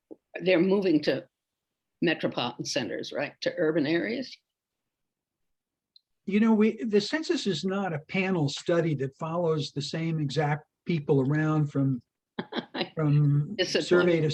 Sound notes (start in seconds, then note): 12.4 laughs